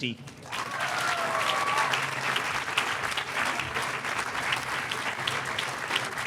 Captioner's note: audience applauding